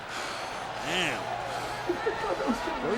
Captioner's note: crowd roaring continues; commentator chuckling